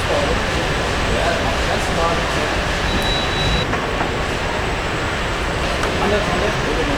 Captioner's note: engine revving